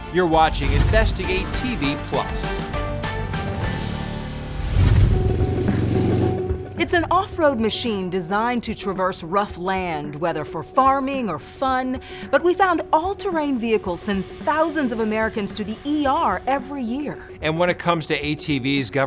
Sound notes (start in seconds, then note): 3.0 upbeat music; 4.5 engine rumbling